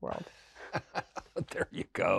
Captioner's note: laughing